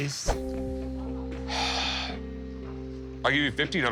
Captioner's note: sighs